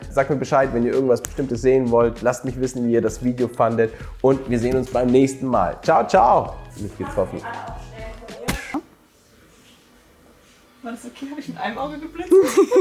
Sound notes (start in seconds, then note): 8.4 hits; 12.3 laughing